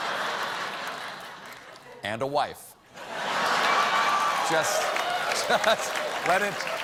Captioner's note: laughter